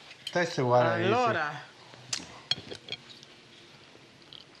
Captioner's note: speaking Italian